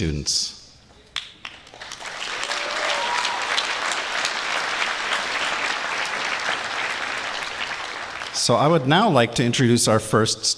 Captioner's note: applause